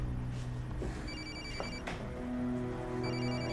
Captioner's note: cell phone rings